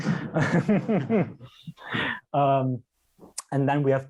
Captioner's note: laughs